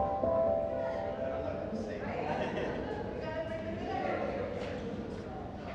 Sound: people chattering in distance

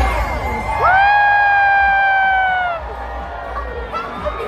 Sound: audience cheering

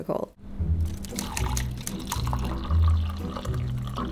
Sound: water pours

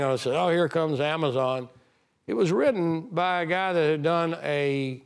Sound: none

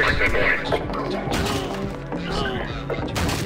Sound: citizen grunts; wood smashing

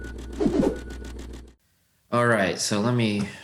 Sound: whooshing

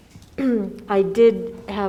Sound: clears throat

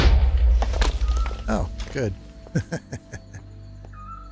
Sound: laughs

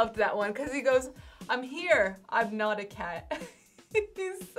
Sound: laughs

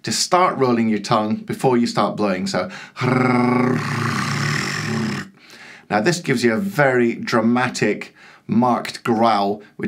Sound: tongue roll

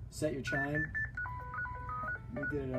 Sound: alarm sounding

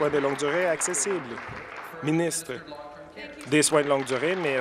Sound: applause

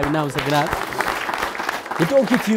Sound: applause

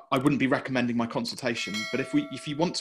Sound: bell ringing

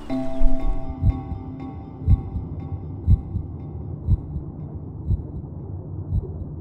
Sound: heartbeat thumps underwater

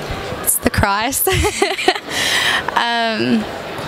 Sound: laughs

